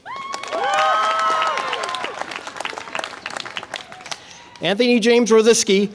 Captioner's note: audience applause and cheer